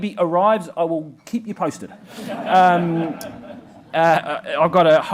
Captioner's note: group laughs